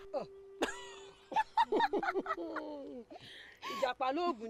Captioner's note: laughter